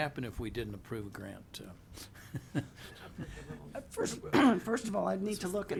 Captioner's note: laughs